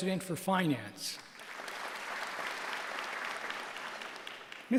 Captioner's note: applause